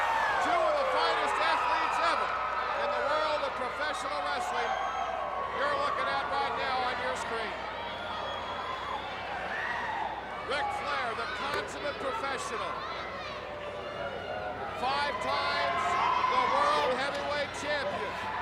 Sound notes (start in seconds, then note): 7.8 crowd whistling; 8.4 crowd cheering